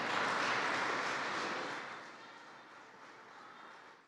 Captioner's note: applause